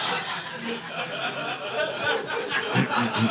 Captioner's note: audience laughing